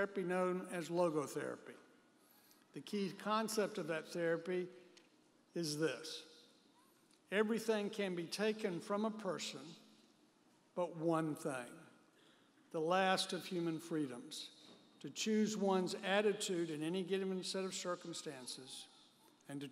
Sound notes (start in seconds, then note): none